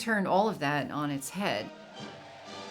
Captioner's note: crowd cheering; stately music